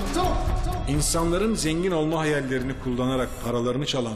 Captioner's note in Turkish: Ahmet dış ses